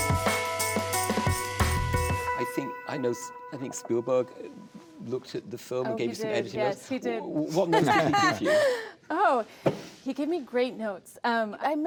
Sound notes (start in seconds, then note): 7.6 laughs